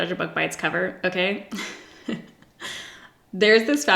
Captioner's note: giggles